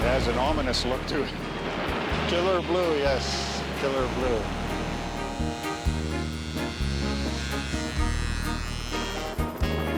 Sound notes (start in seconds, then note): 5.2 electronic buzzing